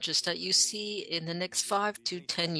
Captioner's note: speaking French